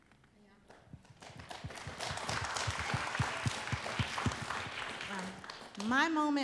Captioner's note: applause